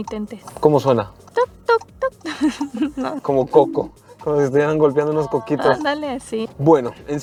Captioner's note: ticking sound